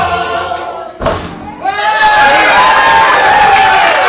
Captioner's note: cheering